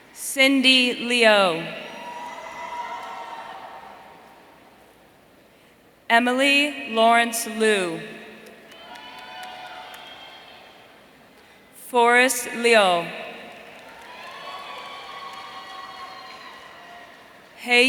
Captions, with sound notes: Cindy Liu. Emily Laurence Liu. Forrest Liu. (audience cheering)